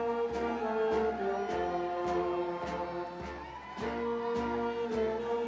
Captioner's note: audience member whooping